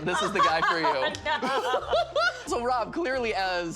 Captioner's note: laughing